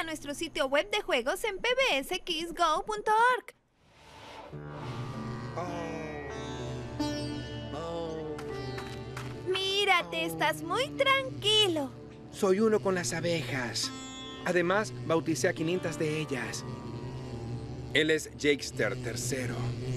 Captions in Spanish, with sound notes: de juegos en pbskidsgo.org. - Om... om... - Mírate, estás muy tranquilo. - [inhalando] Soy uno con las abejas. Además, bauticé a 500 de ellas. Él es Jakester, el tercero.